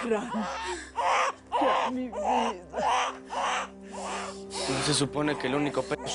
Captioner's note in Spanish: Griterío del bebito